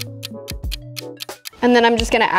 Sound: clock ticking

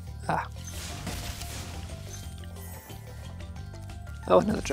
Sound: chest cracks

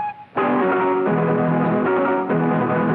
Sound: none

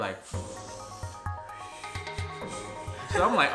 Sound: breathes deeply

